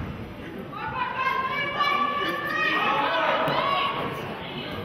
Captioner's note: players hollering